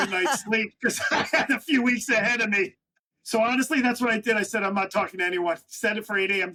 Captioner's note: laughs